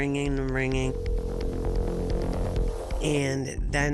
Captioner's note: cellphone ringing